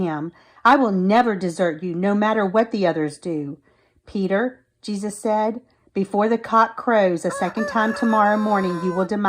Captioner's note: rooster crows